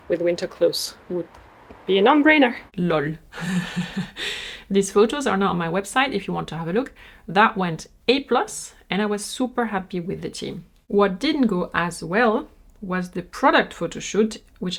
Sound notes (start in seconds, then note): 3.3 laughs